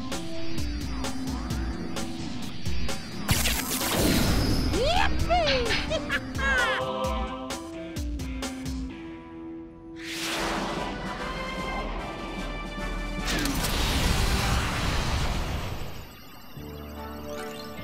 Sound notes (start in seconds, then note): 4.8 laughing; 9.6 heroic music; 15.7 machine computes, whirs